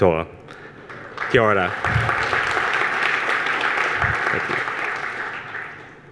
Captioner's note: audience applause